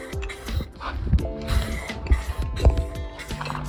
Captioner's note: aerosol sounds